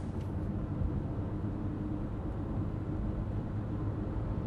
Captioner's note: speaking in foreign language; car engine roaring